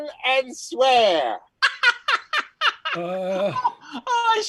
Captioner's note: laughing